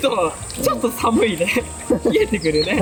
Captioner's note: laughs